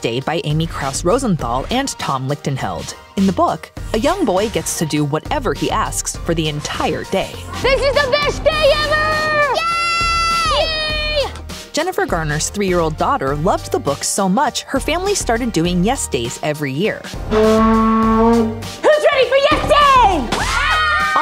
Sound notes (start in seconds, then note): 17.2 horn blowing; 18.9 family cheering